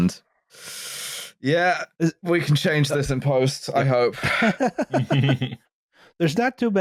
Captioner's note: laughter